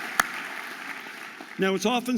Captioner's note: audience applauding